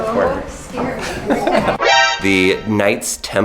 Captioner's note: laughs, dramatic music